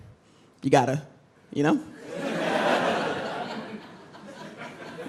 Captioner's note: crowd laughs